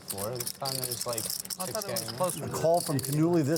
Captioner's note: chattering